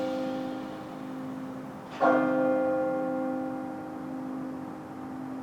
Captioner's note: gong ringing